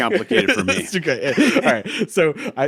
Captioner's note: laughing